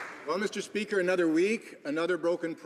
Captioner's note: some Applause